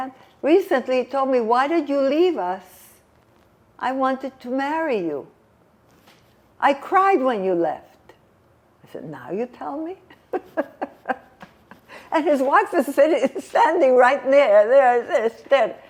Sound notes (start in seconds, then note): 10.1 laughing